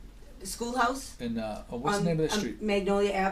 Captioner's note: voiceover